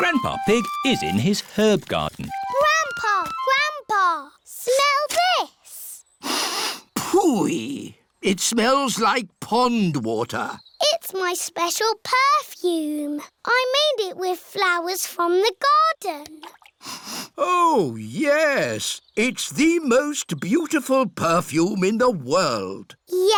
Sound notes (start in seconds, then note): 6.2 sniffs; 16.8 sniffs